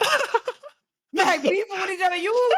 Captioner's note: laughing